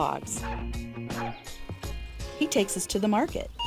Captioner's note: dog barking